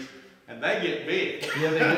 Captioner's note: laughs